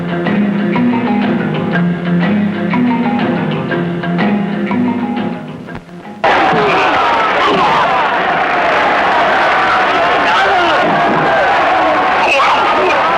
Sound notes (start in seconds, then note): 6.8 crying out; 6.8 whacking